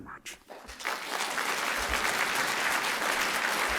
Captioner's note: applause